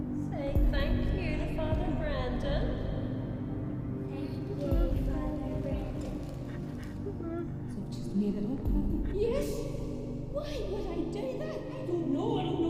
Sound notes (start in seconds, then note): 5.7 Ann whimpering